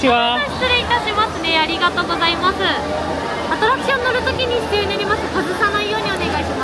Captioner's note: cast member speaking Japanese